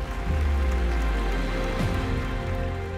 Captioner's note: applause